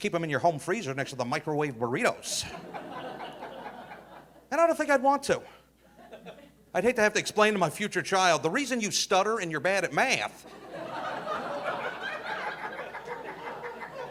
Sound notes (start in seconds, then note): 2.4 audience laughing; 10.4 audience laughing